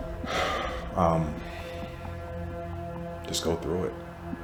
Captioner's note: sighs